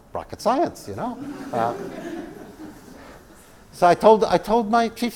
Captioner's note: laugh